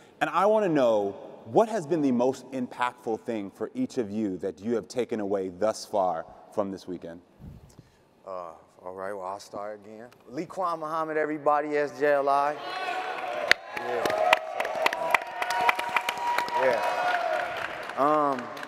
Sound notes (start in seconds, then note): 12.8 audience clapping and cheering